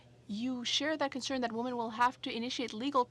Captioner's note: speaking French